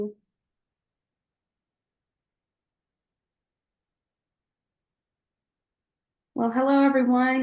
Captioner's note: silence